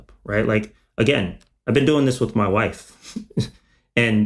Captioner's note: chuckles